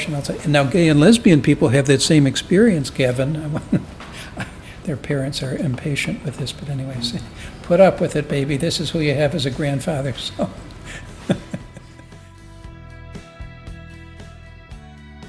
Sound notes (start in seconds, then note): 11.1 laughs